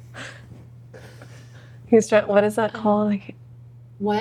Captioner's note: laughing